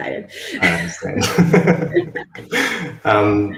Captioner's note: laughter